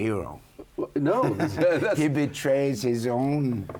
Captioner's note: chuckles